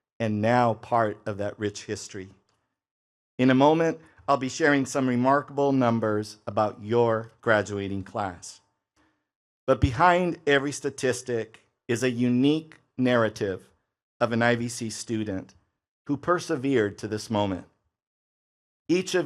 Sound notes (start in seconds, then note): none